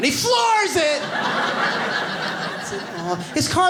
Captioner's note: audience laughs